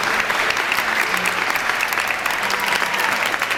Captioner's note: clapping